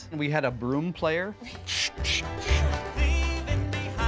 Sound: imitates broom swishing

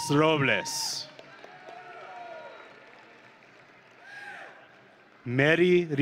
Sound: audience and graduates cheering

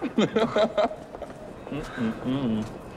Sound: laughs

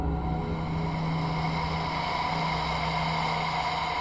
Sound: Dementor breathing heavily

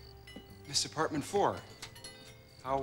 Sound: <i> whispering</i>

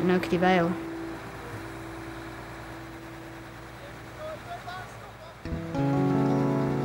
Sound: machinery noise

